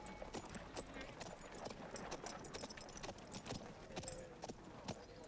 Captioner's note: townsfolk chattering